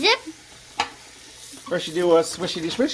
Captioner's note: water sounds